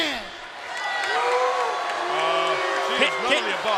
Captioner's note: crowd cheering